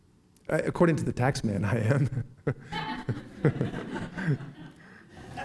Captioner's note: laughing